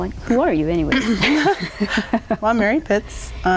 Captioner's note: laughing